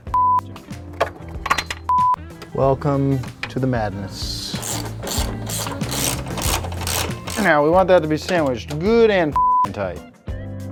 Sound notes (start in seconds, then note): 4.9 ratchet wrench cranking